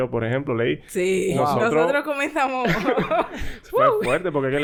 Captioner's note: laughs